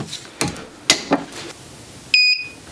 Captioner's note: heat press clicking; heat press beeping